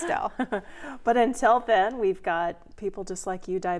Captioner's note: laughing